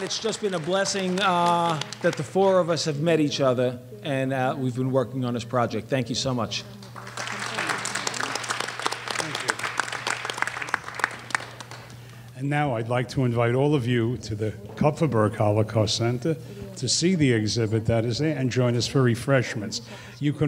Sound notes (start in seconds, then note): 6.8 applause